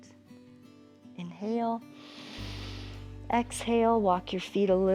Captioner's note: inhales